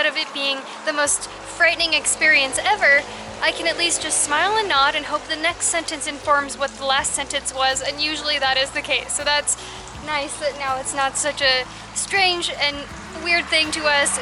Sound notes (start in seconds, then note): none